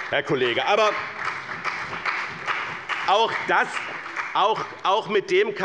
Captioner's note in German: Beifall bei dem BÜNDNIS 90/DIE GRÜNEN und der CDU